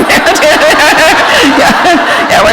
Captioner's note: laughter